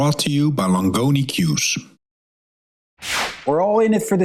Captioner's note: transition whooshing